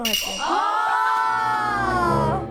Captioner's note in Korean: 술렁 술렁